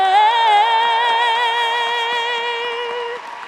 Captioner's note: audience claps